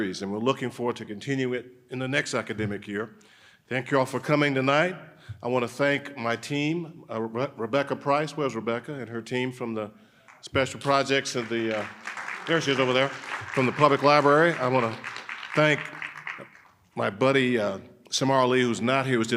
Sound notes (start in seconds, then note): 11.1 audience applauding